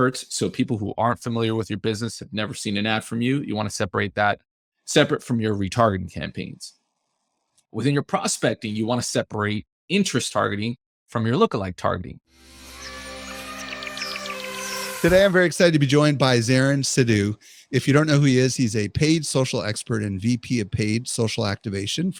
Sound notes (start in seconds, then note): 12.4 light airy music; 12.7 birds chirping